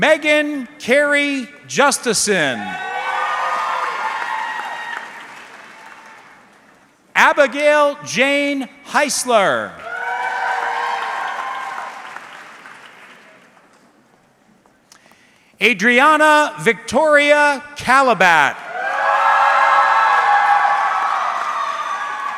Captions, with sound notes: Megan Carrie Justison. (audience cheering) Abigail Jane Heisler. (audience cheering) Adriana Victoria Calabat. (audience cheering)